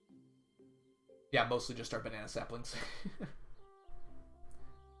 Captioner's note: chuckles